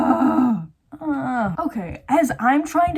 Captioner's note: whining